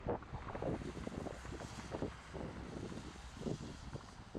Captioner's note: wind howling